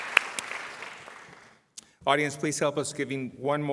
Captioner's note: applause